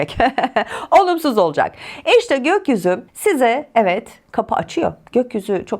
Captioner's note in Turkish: kahkaha